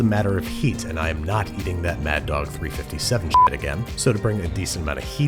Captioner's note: beep